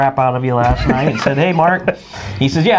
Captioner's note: laughing